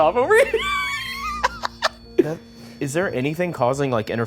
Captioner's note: Ryan laughing